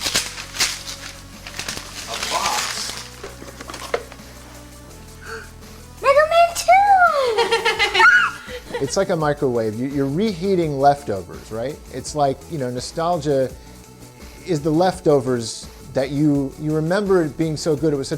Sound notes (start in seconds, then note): 0.0 wrapper tearing; 5.0 gasps; 8.3 screams in excitement